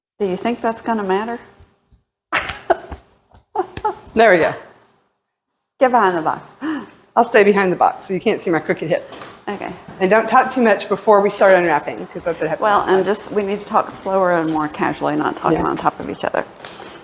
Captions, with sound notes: Do you think that's gonna matter? [Laughing] There we go. Get behind the box. I'll stay behind the box so you can't see my crooked hip okay And don't talk too much before we start unwrapping well I'm just we need to talk slower and more casually not talking on top of each other